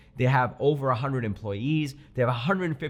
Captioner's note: none